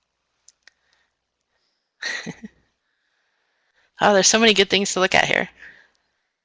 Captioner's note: laughs